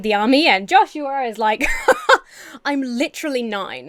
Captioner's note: Emma laughs incredulously